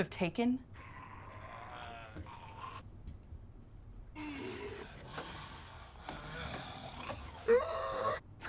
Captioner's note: moaning